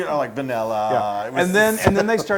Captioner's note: laugh